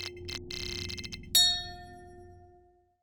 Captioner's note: shimmery chime swells; bell chimes